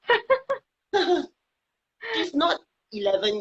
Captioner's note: laughing